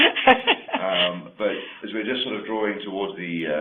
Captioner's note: laughs